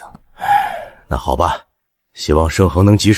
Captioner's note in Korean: 한숨